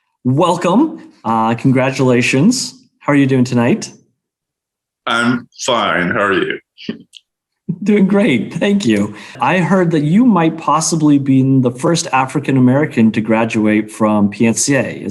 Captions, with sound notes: Welcome, congratulations, how are you doing tonight? - I'm fine, how are you? (chuckles) - Doing great, thank you. I heard that you might possibly being the first African American to graduate from PNCA.